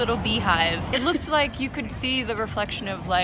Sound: laughter

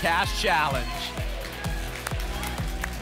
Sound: applause and cheering

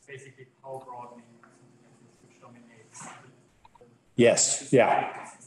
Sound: participant speaks faintly

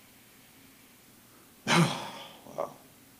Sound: sighs

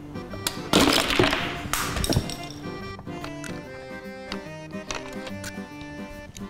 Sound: plastic clatters; button clicks

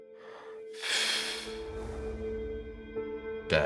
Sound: mysterious music; air whooshes

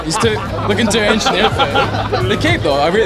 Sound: all laugh

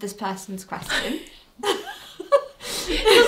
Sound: both laugh

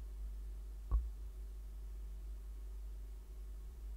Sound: mic tapped?

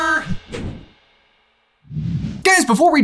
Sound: air whooshes

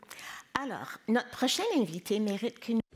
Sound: speaking in French

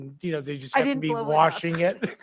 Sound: laughs

